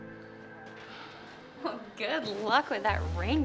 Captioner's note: Ashley sighs